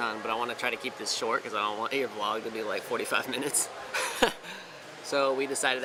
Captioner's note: chuckles